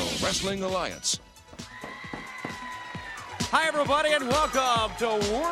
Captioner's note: crowd cheering